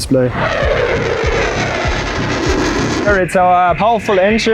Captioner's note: engine roaring